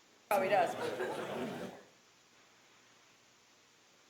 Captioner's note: people chattering